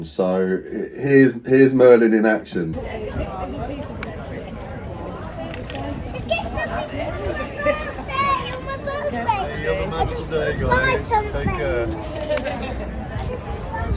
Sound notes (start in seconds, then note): 2.8 people chattering